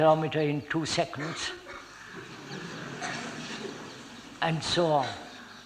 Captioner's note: laughter